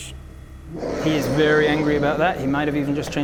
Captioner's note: angry rawr